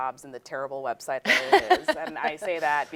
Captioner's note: laughing